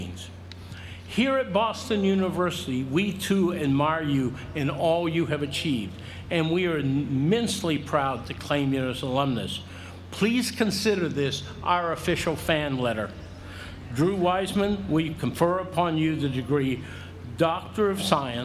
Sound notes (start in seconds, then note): none